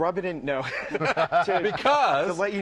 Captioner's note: laughter